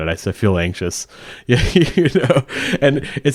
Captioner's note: laughing